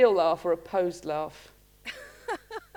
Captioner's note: laughter